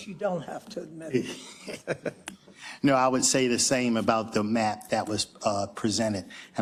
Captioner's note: laugh